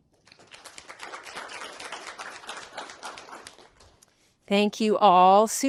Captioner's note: applause